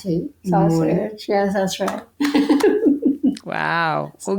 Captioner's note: laughs